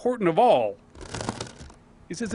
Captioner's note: crunching